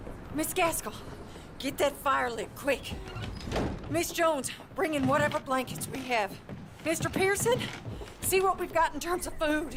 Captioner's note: none